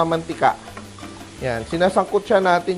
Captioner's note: sizzle